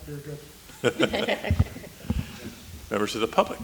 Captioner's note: laughing